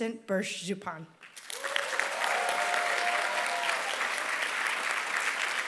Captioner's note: applause